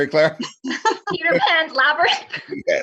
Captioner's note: laughing